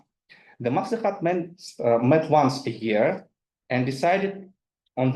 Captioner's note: speaks in foreign language